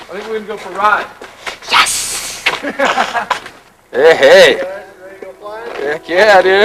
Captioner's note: laughter